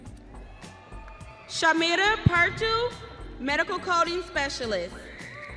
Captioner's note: audience cheering